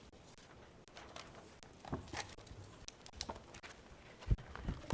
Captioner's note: paper rustling